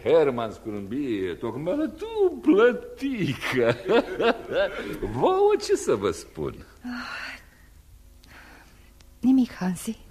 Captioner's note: laughter